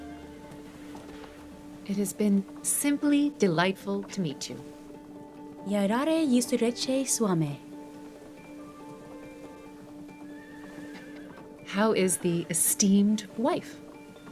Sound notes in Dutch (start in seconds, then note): 5.7 Catherine spreekt Russisch; 10.4 paard hinnikt